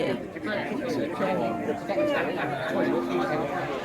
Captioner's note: background chatter